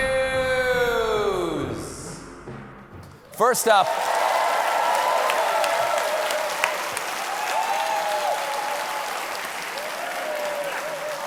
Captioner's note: applause; echo